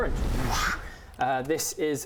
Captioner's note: whoosch